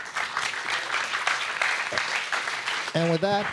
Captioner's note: audience applauding